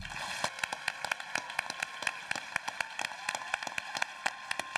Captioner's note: audience applauding